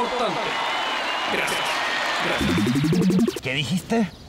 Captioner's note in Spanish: Aplausos